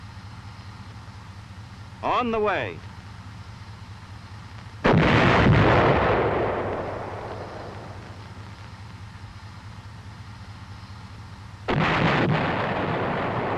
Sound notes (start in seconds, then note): 4.8 gun booming; 11.7 shell exploding